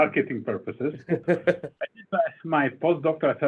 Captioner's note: laughing